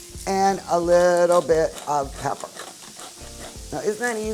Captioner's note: pepper grinding